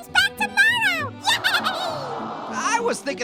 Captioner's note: Marshmallow cheers